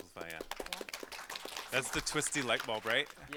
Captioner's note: audience applauding